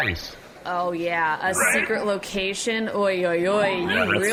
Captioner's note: sarcastic